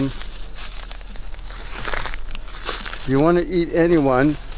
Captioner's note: crackling sound